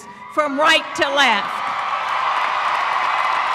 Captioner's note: applause